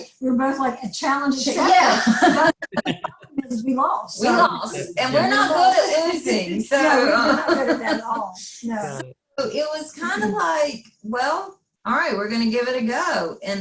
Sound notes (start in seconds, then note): 1.8 faintly speaking; 5.6 faintly speaking; 7.2 laughing